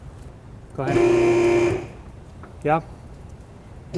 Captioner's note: lift whirring